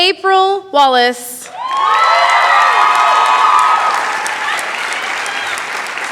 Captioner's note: cheering, applause